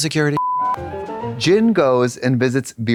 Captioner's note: beep; bright chime